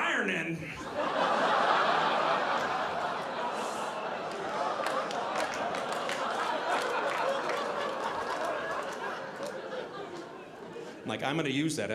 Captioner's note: audience laughing